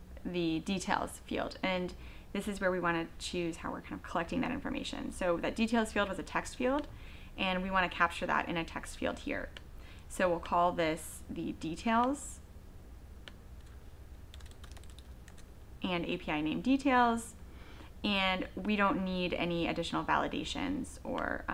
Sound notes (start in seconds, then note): 14.3 typing on keyboard